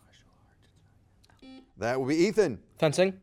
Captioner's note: buzzer beeping